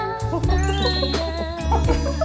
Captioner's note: cheerful sound effect